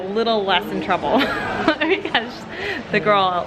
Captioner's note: chuckling